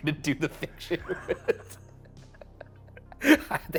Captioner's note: both chuckling